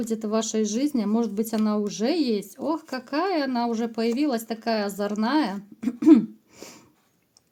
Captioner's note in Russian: откашливается